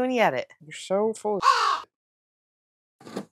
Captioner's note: caw